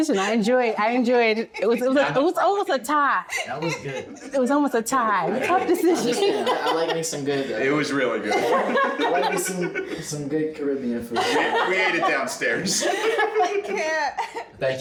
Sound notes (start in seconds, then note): 5.0 everyone chattering and laughing